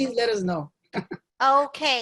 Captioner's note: laugh